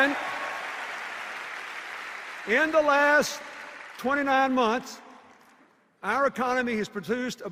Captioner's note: cheers and applause